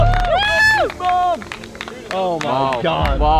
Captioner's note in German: Menschen feuern an